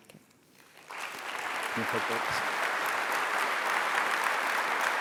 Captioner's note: applause